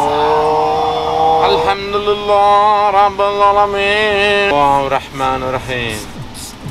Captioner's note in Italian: something in Arabic language